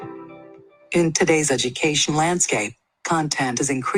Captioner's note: computerized Voice